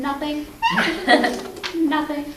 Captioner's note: laughing